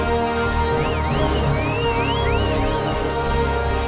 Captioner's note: Chocobos Kweh-ing